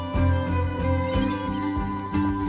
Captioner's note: birdsong